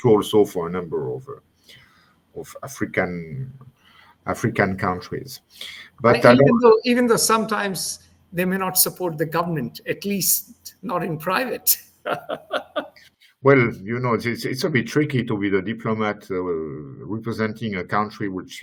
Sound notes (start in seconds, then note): 12.0 laughs